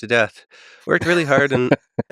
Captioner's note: Lex laughing